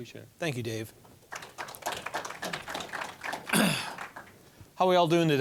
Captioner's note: applause